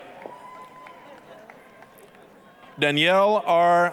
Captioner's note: applause, cheering